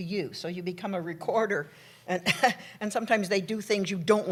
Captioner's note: laughs